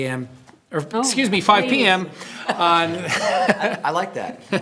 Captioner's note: laughs